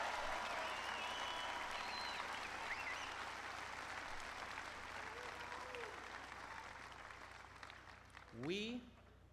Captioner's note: applause